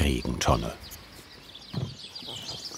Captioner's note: birds chirping